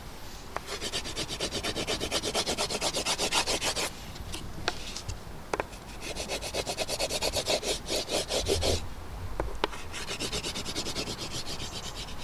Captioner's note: sketching sounds